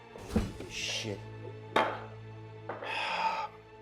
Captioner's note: sighs